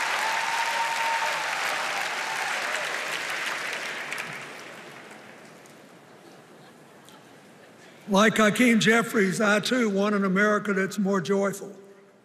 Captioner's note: cheers and applause